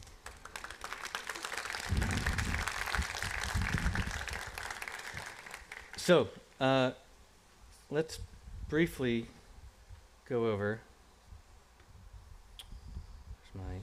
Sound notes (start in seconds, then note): 3.0 applause